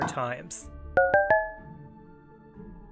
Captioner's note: dings